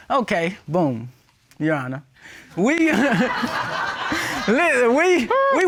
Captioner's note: all laugh